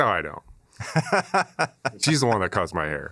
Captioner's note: laughter